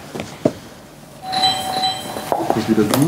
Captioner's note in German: Türklingel